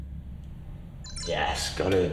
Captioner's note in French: L'ordinateur fait bip